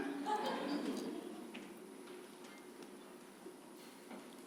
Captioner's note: audience laughs